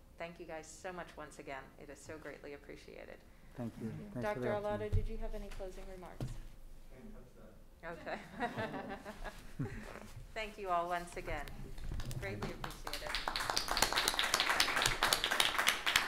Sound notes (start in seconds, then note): 7.0 muttering; 8.0 laughing; 13.4 applauding